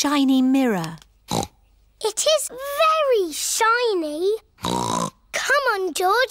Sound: snorts

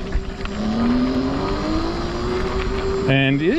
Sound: bike motor revving

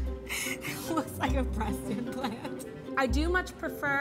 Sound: laughs

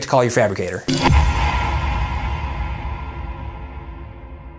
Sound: air whoosh

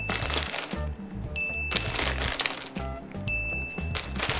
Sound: package crinkles; bell dings; package crinkles; bell dings

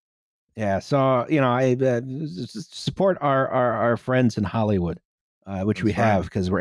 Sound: stammers

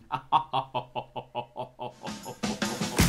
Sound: menacing Laugh

